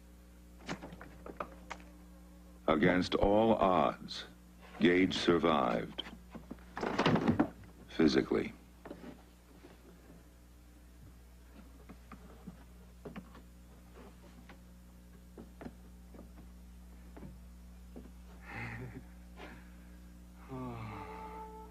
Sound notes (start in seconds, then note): 6.8 door closes; 18.4 laughs